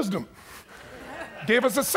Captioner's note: audience chuckles